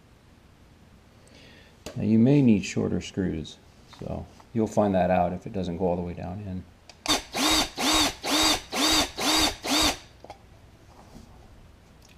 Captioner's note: drilling sounds